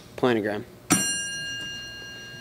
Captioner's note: ding